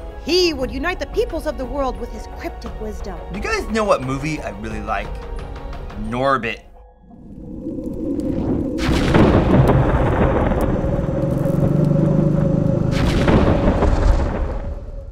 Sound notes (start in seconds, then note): 7.1 wind blowing and fire crackling; 9.5 thunder and growling